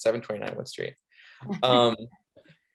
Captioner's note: chuckling